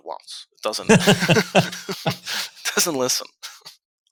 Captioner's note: laughing